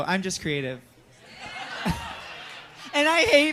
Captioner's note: audience laughs